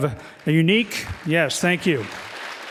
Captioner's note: clapping